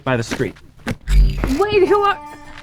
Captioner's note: portal noise